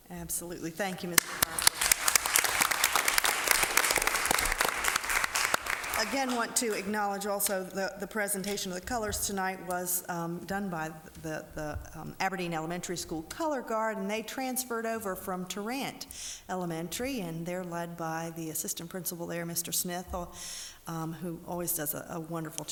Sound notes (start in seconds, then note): 1.1 applause